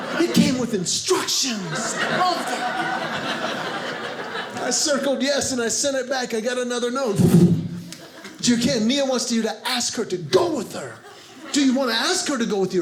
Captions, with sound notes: It came with instructions! I loved it! (audience laughing) I circled yes, and I sent it back. I got another note . . . (poof) "Dear Kenn, Mia wants you "to ask her to go with her. "Do you want to ask her to go with you?